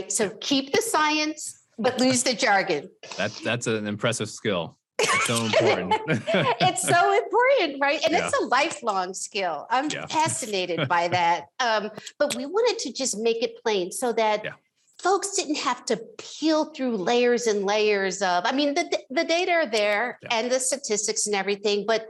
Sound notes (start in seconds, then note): 5.0 both laughs